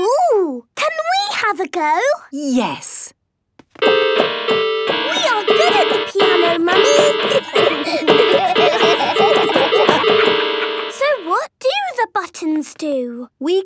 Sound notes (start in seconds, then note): 3.8 dissonant music; 7.3 laughter